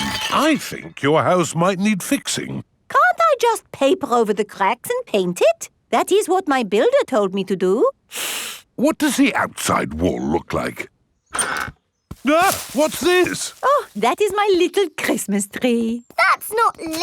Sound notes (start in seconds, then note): 8.1 inhales sharply; 12.2 exclaims